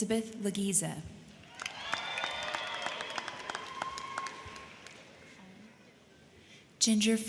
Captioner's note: crowd clapping; crowd cheering